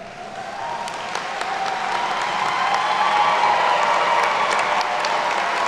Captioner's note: attendees cheer and clap